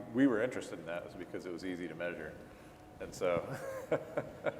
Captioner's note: laughing